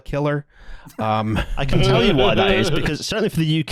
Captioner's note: laughter